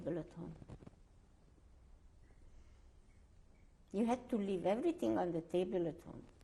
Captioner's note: pauses for 3 seconds